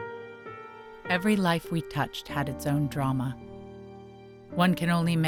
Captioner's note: voiceover